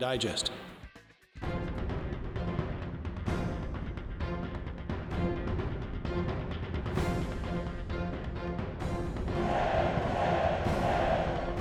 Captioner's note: crowd Cheering